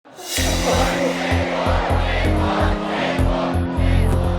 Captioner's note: crowd chants